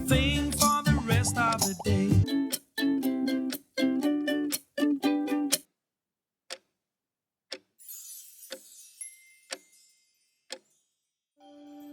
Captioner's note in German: die Uhr tickt